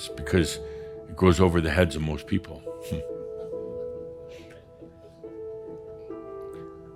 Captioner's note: a few chuckles